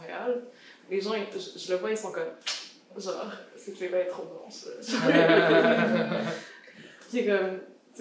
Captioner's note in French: rires